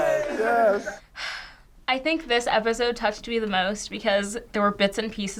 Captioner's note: sighs